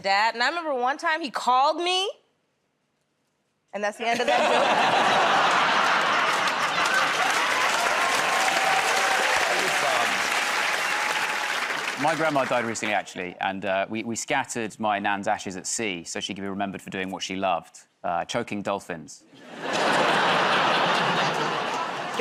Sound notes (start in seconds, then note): 4.0 laughter; 7.9 cheers and applause; 19.4 laughter